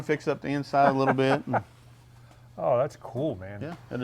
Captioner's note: laughs